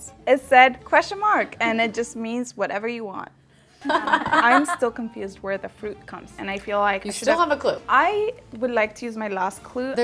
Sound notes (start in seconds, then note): 3.8 other girls laughing